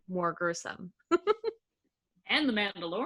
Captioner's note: laughing